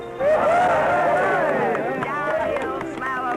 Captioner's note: cheering